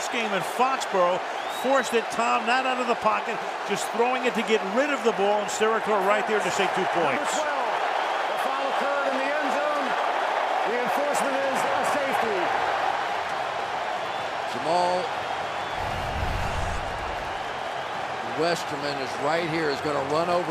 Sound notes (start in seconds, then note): 12.7 cheering